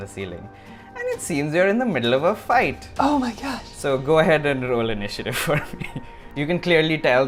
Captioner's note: laughs